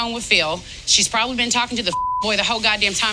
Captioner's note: beep